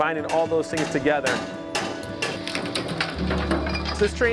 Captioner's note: hammering and wood cracking